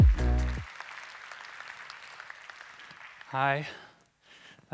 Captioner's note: applause